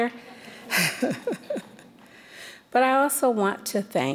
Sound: chuckling

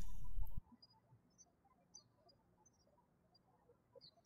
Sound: birds chirping

